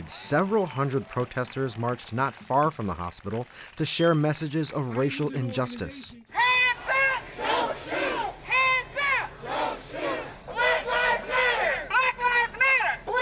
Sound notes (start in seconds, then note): 7.5 crowd; 9.4 crowds; 10.6 crowd